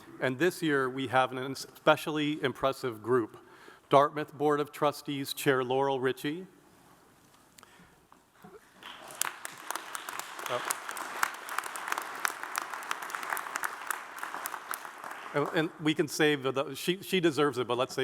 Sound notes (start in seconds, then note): 8.7 audience applauds